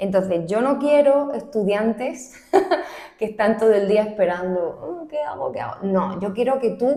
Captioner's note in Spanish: risas